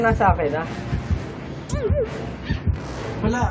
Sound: his heartbeat is getting fast

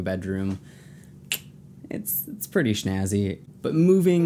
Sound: tongue click

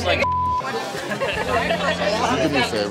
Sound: laughter

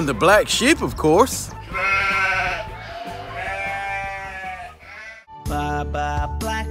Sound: sheep noises baa, baa

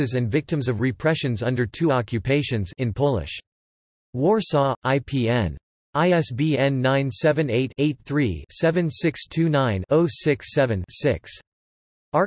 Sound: in Polish

